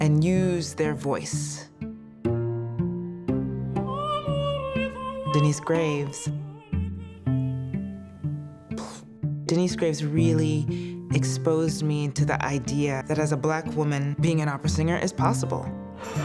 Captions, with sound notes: and use their voice. -[ Singing in French ] -Denyce Graves -- [exhales] Denyce Graves really exposed me to the idea that as a Black woman, being an opera singer is possible.